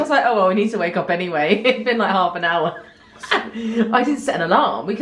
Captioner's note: laughs